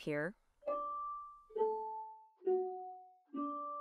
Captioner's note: chimes